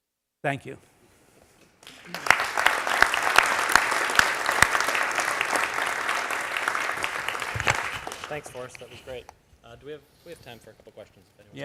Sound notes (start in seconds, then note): 1.8 applause